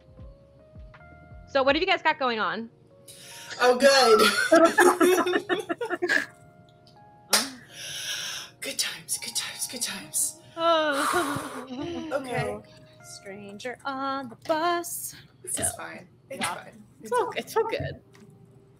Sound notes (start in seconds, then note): 1.7 more upbeat tone; 4.1 laughter; 13.4 singing